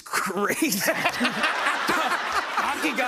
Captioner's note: laughter